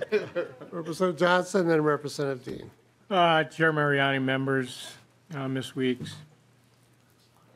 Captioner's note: laughing